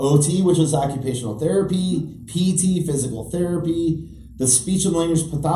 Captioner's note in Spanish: OT en inglés